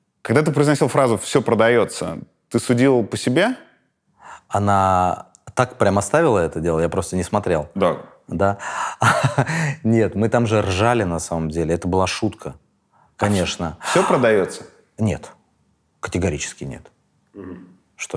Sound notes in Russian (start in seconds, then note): 9.0 смеясь